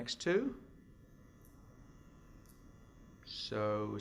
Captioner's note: silence